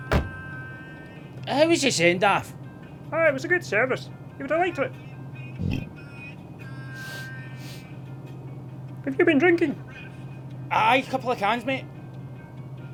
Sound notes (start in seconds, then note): 0.0 car door slams; 5.6 burps; 6.9 sniffing